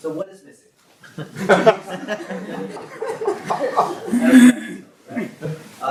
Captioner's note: audience laugh